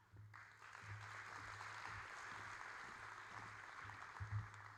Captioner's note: audience applauding